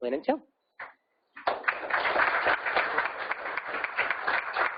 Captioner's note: applause